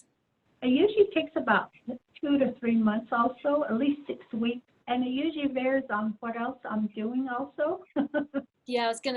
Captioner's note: laughs